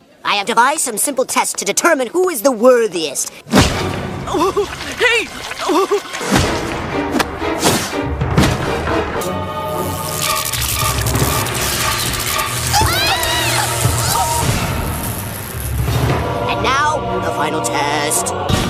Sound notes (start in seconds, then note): 3.8 pained grunts; 12.6 screaming in agony